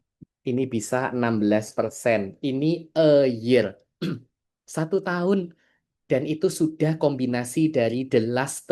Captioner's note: berdehem